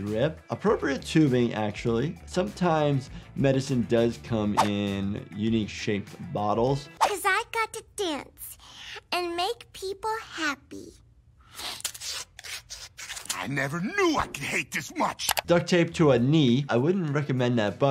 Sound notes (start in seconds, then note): 11.5 duct tape tears